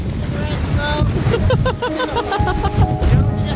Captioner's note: laughter